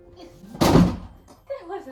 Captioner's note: slams